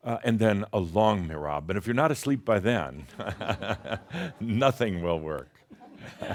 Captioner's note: chuckles